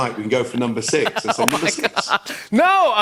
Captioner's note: laughs